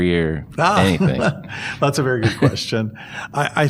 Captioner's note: laughter